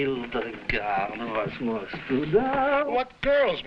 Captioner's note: Burgomil speaking foreign language